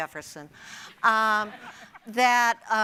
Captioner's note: audience and panel laughing